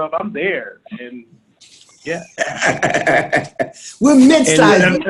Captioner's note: laughs